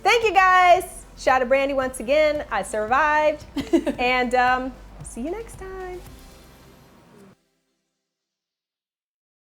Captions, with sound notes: Thank you, guys. "Shot of Brandi," once again I survived. (Maxxine chuckles) And see you next time. (upbeat music)